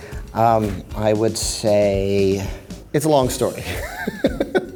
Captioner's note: laughs